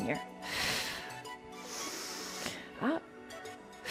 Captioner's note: breathes deeply